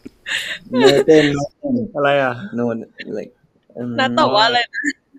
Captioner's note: in Thai